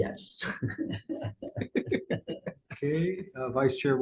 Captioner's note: people laughing